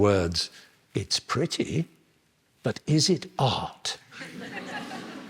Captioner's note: laughter